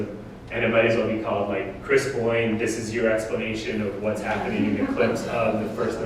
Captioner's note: audience: Laughter